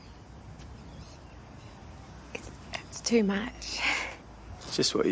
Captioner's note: laughs